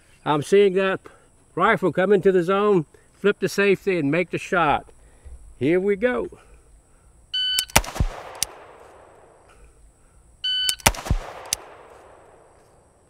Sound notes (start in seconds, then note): 7.3 rifle fires; 7.3 timer beeps; 10.7 rifle fires